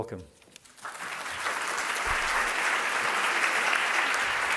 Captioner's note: applause